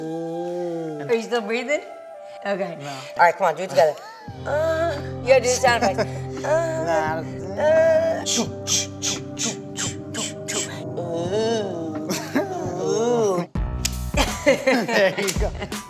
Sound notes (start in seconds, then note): 0.0 moaning; 2.3 rhythmic sounds and moaning